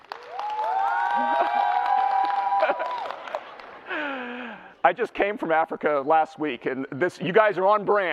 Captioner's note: clapping and cheering; laughs